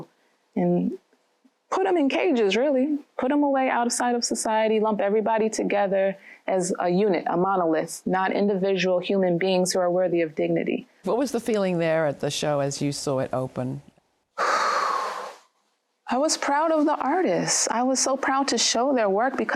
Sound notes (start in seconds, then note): 14.4 sighs